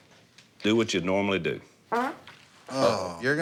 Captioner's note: farting